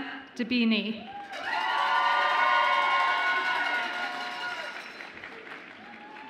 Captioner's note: audience applauds and cheers